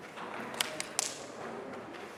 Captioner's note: loud slapping